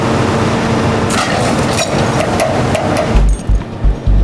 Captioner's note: chain snapping; chains clanging; ominous action music